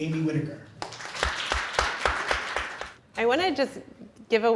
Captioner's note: audience applause